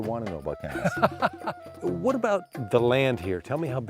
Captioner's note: laughter